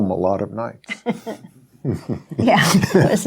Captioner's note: both laughing